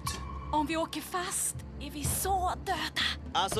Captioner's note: whispers